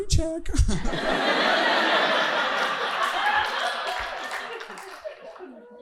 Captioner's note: audience laughing